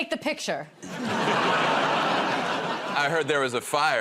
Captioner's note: laughter